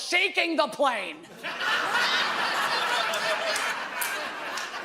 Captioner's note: audience laughs